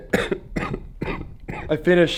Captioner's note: laughs; coughs